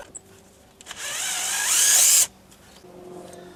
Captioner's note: drilling